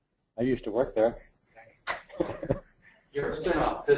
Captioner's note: laugh